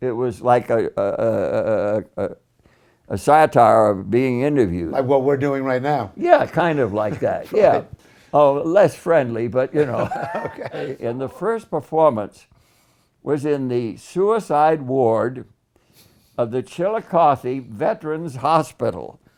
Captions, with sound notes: it was like a uhh a satire of being interviewed Like what we're doing right now Yeah kinda like that, yeah Oh, less friendly but you know (laughs) Okay And the first performance was in the suicide ward of the Chillicothe Veterans Hospital